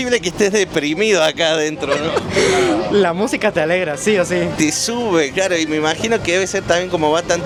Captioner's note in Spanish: risas